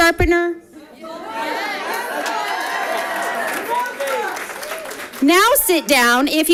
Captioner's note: audience applauding